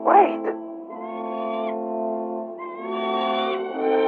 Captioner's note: bird squawking